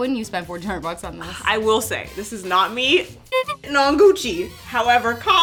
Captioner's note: honk